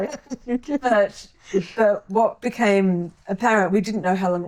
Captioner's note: laughing